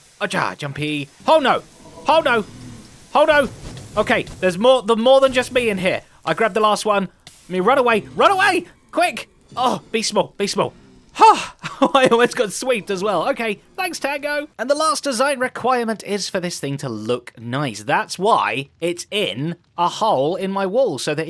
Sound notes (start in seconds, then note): 10.7 sighs; 11.2 laughs